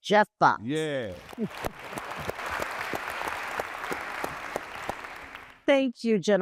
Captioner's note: applause